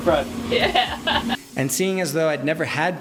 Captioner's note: laughter